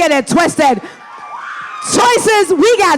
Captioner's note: audience applauding